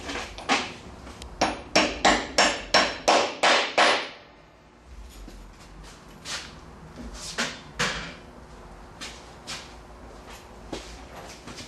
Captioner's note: hammering